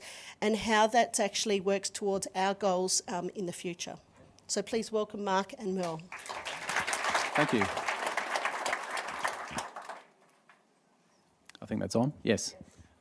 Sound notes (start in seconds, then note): 5.8 applause